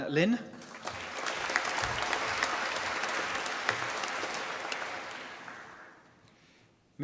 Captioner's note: applause